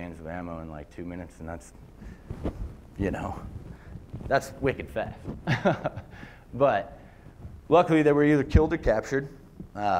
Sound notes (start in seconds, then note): 5.4 laughter